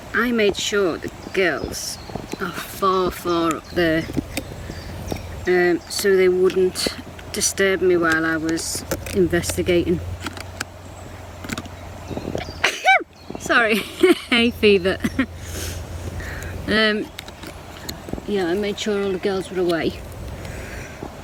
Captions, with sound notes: I made sure the girls are far, far up there. (birds chirping) So they wouldn't disturb me while I was investigating. (sneezes) Sorry. (laughs) Hay fever. You know, I made sure the girls were away.